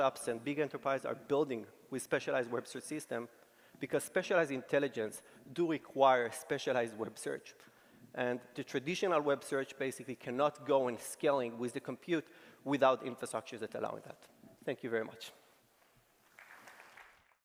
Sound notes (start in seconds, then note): 16.2 applause